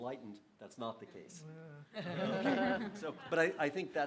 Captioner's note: laughter